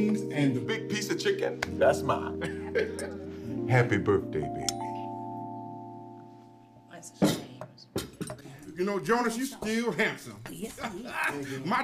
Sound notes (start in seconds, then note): 1.8 laughing; 10.9 chuckles